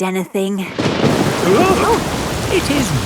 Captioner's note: thunderclap; parents gasp